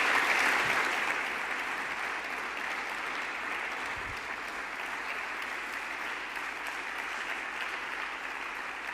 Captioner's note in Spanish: aplausos